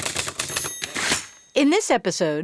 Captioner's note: typing; typewriter ding